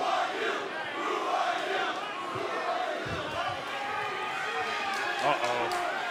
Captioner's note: fans chanting